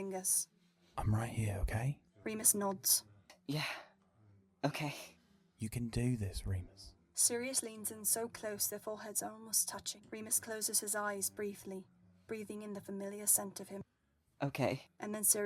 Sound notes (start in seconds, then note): none